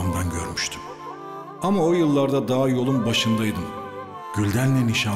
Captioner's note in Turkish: Ahmet dış ses